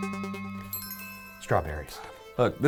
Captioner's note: light chime